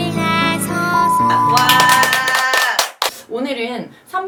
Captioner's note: opening song; very dry shout for cheer